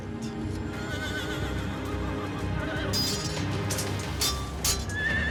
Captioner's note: horses whinnying, swords clashing